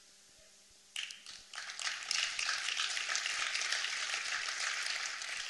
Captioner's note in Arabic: تصفيق